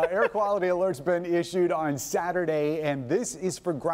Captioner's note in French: laughter